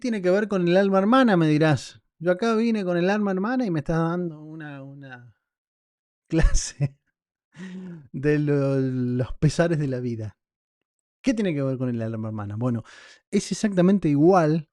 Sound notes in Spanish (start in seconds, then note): 6.3 risas